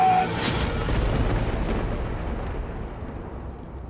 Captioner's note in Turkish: Gök gürültüsü efekti